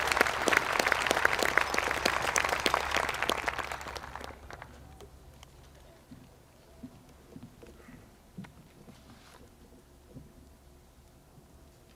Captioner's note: applause